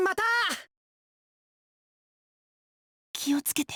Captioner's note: silence